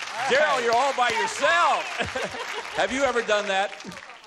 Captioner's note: applause